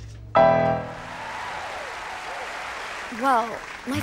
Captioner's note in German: applaus